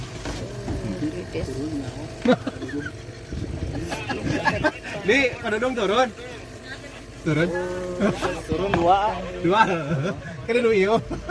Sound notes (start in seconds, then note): 2.2 laughs